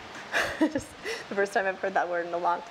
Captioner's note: laughs